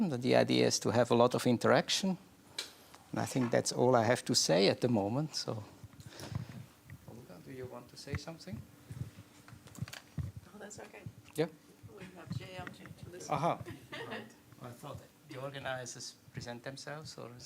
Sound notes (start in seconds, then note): 13.6 laughs